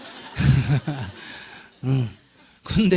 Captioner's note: audience Laughter